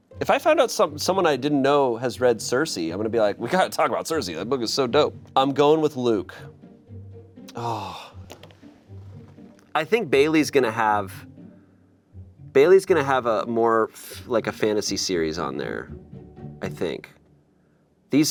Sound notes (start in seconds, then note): 7.5 sighs